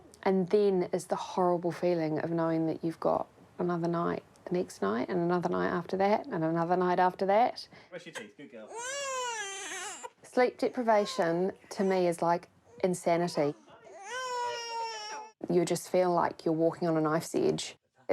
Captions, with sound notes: And then it's the horrible feeling of knowing that you've got another night the next night and another night after that and another night after that. Brush your teeth. Good girl. (BABY CRIES) Sleep deprivation, to me, is like insanity. You just feel like you're walking on a knife's edge.